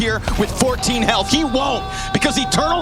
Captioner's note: player screaming